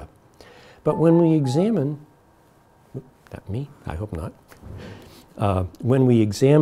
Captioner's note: phone chimes